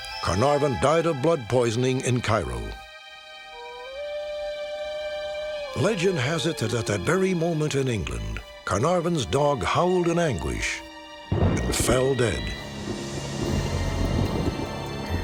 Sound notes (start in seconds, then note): 3.4 dog howling; 11.3 thunder rumbling